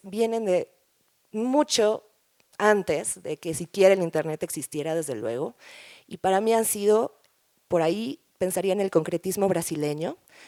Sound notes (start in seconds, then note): none